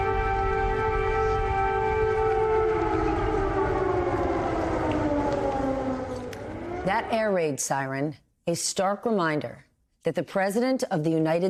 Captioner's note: sirens